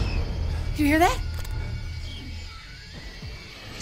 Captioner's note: shrieking continues